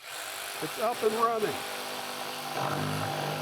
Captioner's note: drill whirring